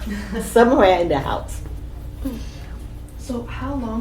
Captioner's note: all laugh